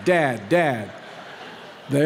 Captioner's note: laughter